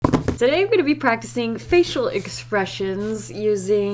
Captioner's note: drumming fingers